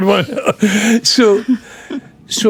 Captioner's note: laughing